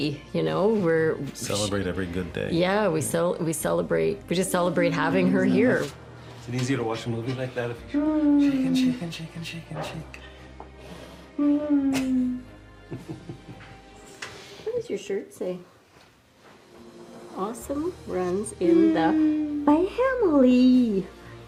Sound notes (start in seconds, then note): 7.8 moaning